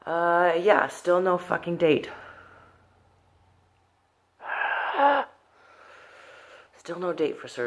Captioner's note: uuuugh